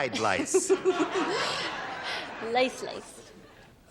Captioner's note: laughter